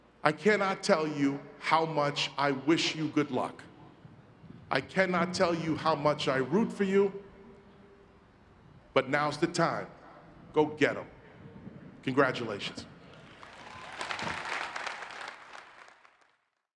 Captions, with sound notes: I cannot tell you how much I wish you good luck. I cannot tell you how much I root for you, but now's the time. Go get em. Congratulations. (crowd claps)